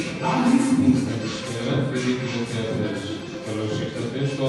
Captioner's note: TV show presenter's voice